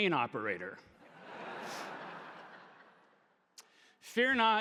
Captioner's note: audience laughing